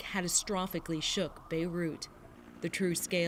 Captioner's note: sirens